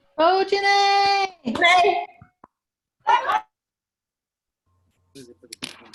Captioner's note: cheering